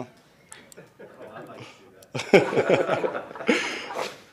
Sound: everyone laughs

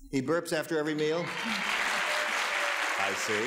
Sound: audience applause

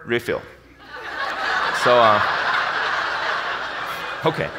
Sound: audience laughs

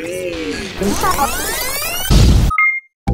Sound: static noises

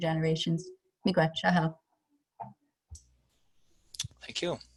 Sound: speaking in foreign language

